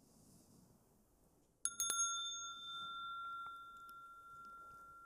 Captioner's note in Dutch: rinkelt bel